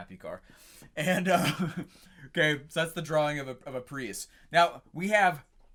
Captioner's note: laughs